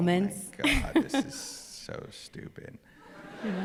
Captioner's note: laughter